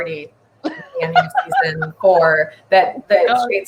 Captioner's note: laughing